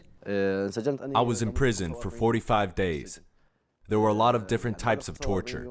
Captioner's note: through translator